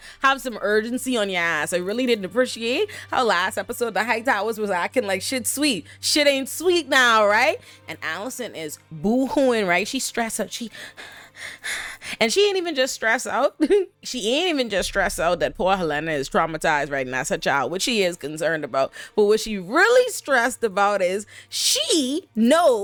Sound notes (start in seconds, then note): 10.8 breathing heavily